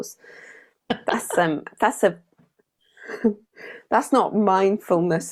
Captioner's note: chuckles